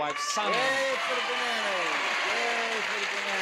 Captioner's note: audience applauds